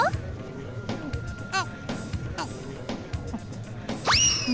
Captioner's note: gulp